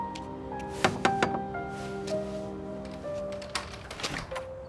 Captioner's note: knocking